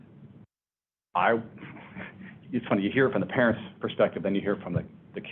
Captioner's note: laughs